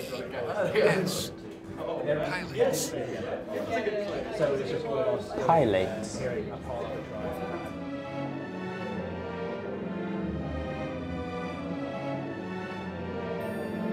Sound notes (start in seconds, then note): 1.2 audio becomes muffled and echoey